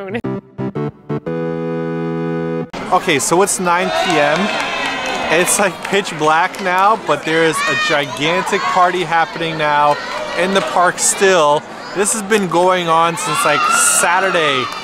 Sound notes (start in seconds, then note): 3.7 faint cheering in background